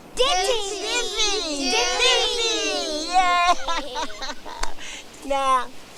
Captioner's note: all respond in Gullah language